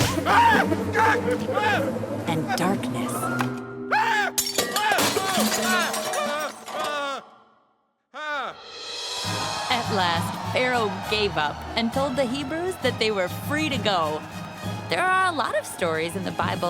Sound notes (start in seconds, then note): 0.1 screaming; 3.9 screaming; 4.3 glass breaking; 5.6 shouting; 8.5 cheering